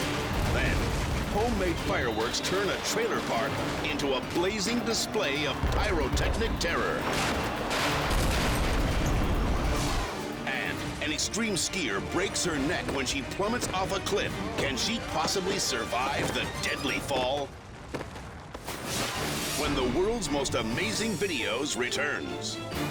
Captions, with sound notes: Then, homemade fireworks turn a trailer park into a blazing display of pyrotechnic terror. (fireworks exploding) (flames roaring) And an extreme skier breaks her neck when she plummets off a cliff. Can she possibly survive the deadly fall? When the "World's Most Amazing Videos" returns.